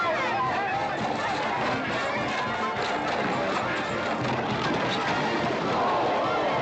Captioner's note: cheering